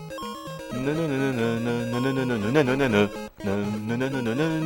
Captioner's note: hums the tune